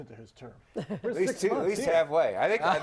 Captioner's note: laughter